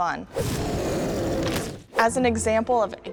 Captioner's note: tyrannosaurus rex roaring